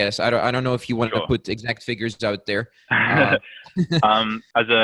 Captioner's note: laughs